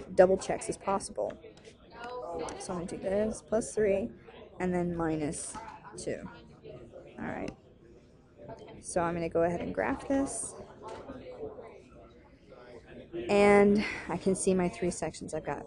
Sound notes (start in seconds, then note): 11.2 chatter